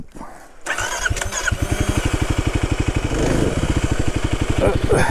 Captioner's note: bike wheels whirring